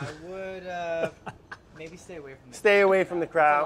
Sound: laugh

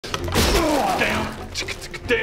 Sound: crash!

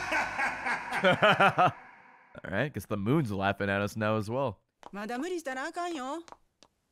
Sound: laughs

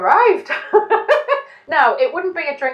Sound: laughing

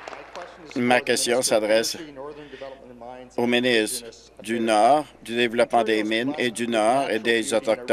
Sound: applause

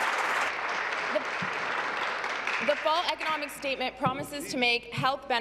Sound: applause

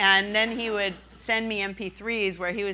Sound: laughing

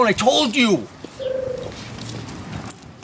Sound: tribble cooing

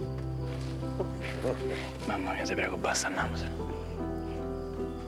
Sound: laughs

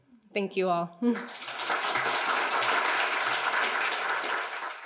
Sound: audience clapping

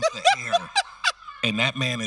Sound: host laughing

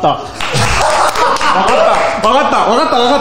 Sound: applause

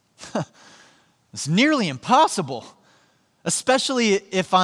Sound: chuckles

